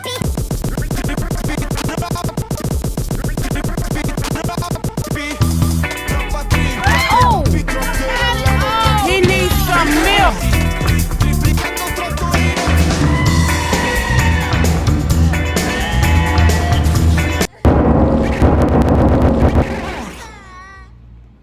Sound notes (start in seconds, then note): 12.8 someone offscreen screams loudly, and music still continues; 17.8 extremely loud sound of a table being pushed!